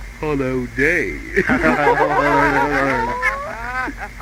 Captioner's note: laughing